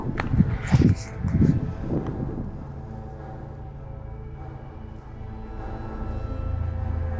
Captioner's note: wind howling; suspenseful music continues